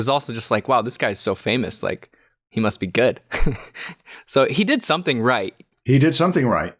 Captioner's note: chuckles